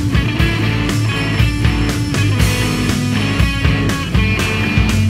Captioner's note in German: Klingeln